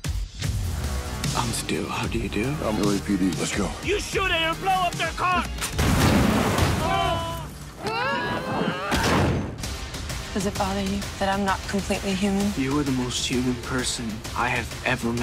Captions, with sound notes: I'm Stu, how do you do? I'm LAPD, let's go. You shoot it, it'll blow up their car. (YELLING) (GRUNTING) Does it bother you that I'm not completely human? You are the most human person I have ever met.